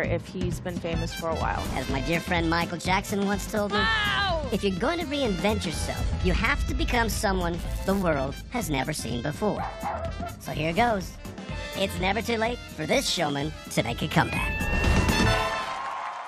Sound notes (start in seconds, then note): 9.6 barking; 15.0 applause